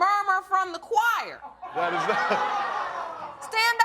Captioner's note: laughs